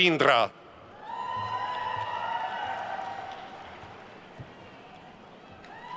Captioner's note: attendees cheering and applauding